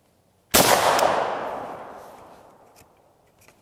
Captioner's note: gunshot